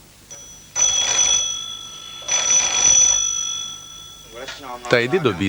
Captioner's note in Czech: zvoní telefon